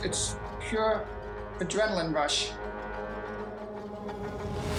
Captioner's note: none